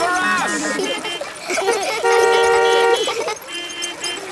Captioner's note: laughter; beeping